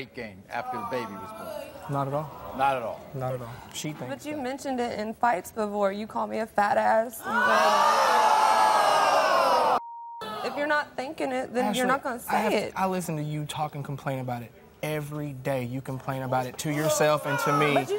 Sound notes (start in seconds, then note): 7.2 audience yells